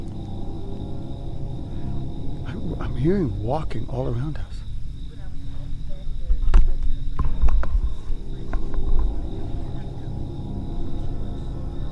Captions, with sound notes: - I'm hearing walking all around us. (group chatters) (suspenseful music)